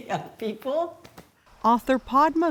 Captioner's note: palms tapping